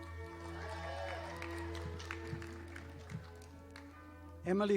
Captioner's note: audience applauding